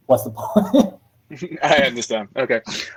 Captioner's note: laughing